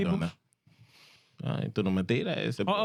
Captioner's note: speaking In Foreign Language